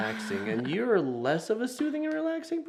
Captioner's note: laughs